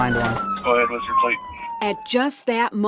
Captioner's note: siren blaring